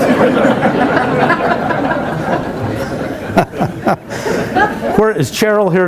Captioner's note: laughter